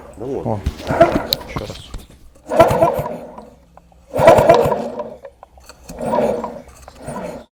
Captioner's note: bearing noise was heard prior to disassembly